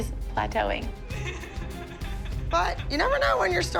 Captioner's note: Maddie cries